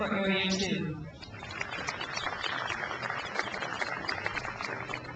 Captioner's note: crowd applauds